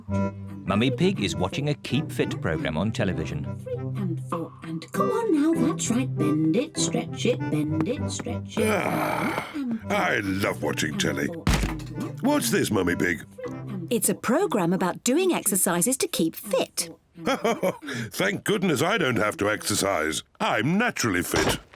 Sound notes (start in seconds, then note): 8.6 sighs; 17.2 chuckles